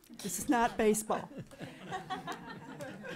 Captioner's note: laughing